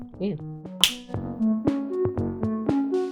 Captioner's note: snap!